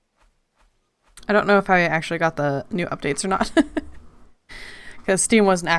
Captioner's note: laughs